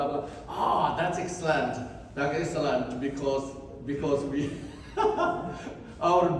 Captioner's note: laughs